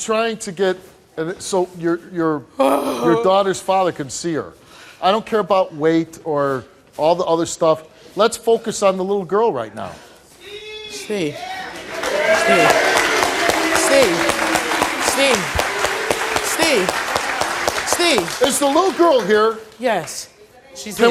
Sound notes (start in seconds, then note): 11.4 audience cheers